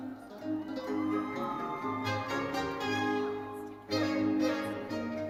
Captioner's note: audience cheering and applauding; orchestral music continues